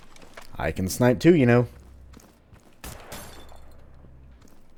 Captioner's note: another Musket shot, bottle breaking